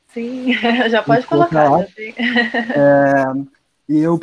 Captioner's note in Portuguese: risos; risos